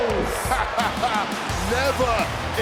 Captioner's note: laughs